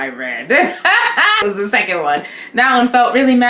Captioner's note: laughs